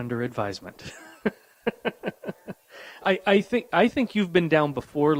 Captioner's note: chuckles